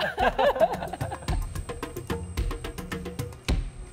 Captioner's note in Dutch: lacht